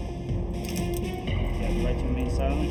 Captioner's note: hand cuffs clicking